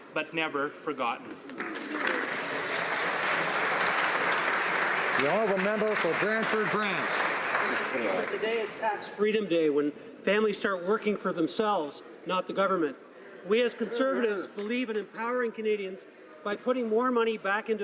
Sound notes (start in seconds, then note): 8.0 applause